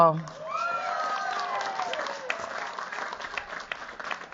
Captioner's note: cheers, applause